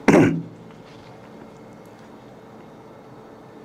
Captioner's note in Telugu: గొంతు సవరించుకోవడం